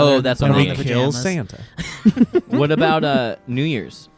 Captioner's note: guys laughing